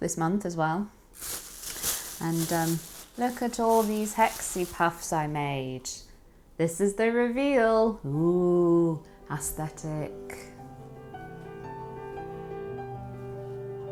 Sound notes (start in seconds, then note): 7.5 classical music starts; 8.8 sacrastically